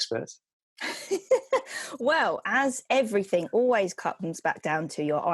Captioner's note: laughs